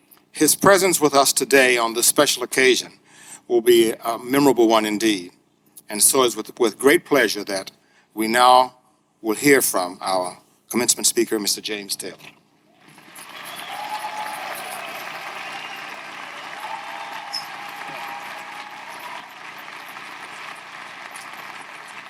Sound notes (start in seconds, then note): 12.8 audience applauding; 12.8 audience cheering